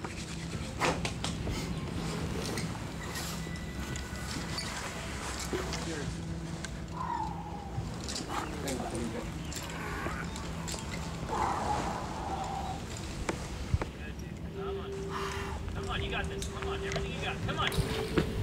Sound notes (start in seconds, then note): 6.8 breathes heavily